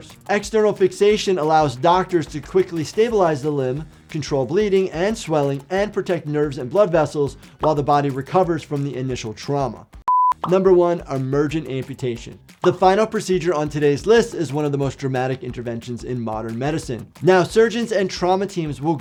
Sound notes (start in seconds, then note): 10.0 beep